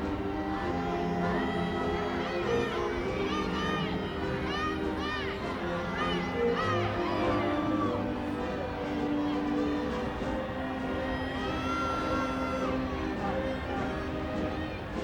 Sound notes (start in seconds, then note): 3.3 crowd cheering